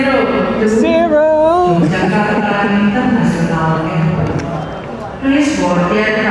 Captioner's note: loud airport announcements